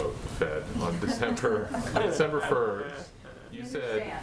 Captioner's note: laughter